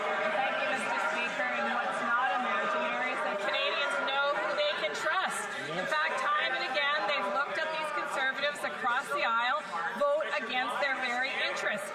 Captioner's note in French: voix de l'interprète